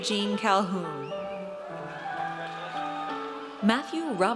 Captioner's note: audience cheers